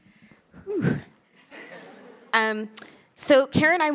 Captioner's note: attendees laughing